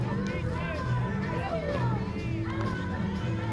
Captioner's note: none